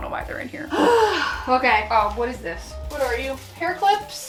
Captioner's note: sighs